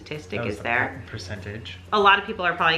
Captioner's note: murmurs